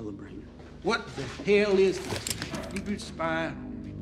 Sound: gun cocks

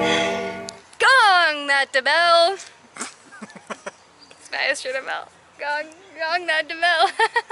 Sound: laughter

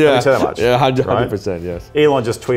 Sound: laughing

